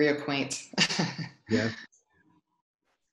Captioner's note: laughs